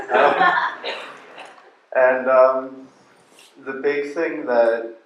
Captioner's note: laughter